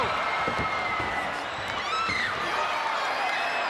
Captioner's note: crowd yelling